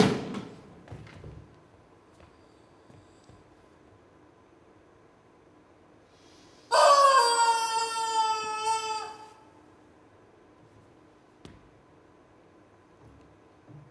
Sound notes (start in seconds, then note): 6.9 squishy honks